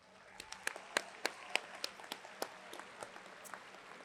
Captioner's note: audience applauds